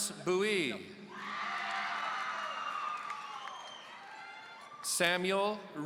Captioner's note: audience cheering